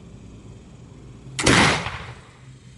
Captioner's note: gun fires